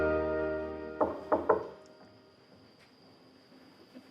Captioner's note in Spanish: Toques en la puerta